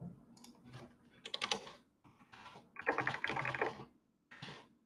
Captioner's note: keyboard clacking